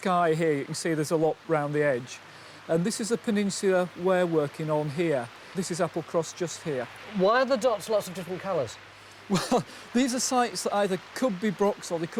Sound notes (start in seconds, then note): 9.2 chuckles